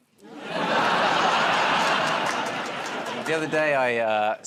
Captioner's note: laughter